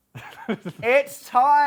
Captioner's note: laughs